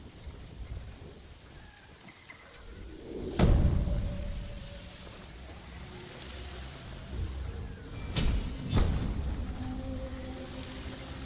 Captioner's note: thunder rumbling